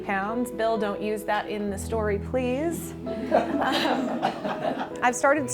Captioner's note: laughter